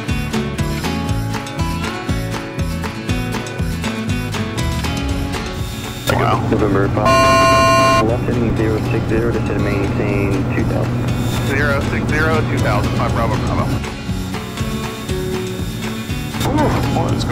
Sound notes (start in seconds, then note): 7.0 plane alarm beeps; 14.2 country music continues